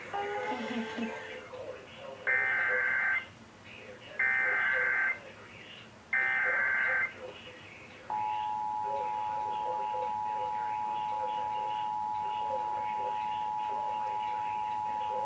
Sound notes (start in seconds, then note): 1.6 eas tones beeping